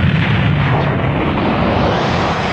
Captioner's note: explosion sound